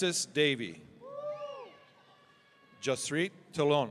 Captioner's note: audience cheering